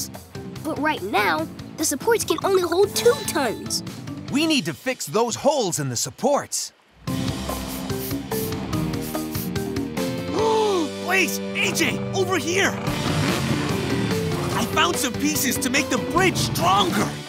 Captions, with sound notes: But right now, the supports can only hold two tons. We need to fix those holes in the supports. [sniffing] [gasps] Blaze, AJ, over here! I found some pieces to make the bridge stronger!